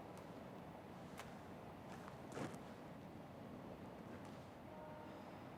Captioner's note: gravel crunching; train horn honking